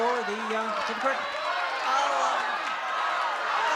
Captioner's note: shouting